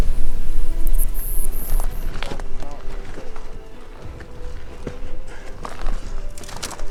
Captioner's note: tender music; twigs crackling